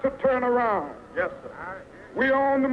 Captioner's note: voiceover